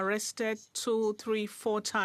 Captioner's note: speaking French